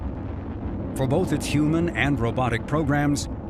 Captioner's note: rocket engines roaring